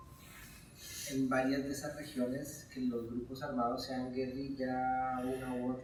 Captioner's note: speaking in Spanish